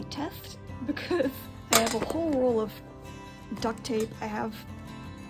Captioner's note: laughing